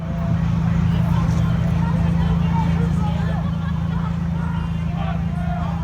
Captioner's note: auto sounds, people talking and shouting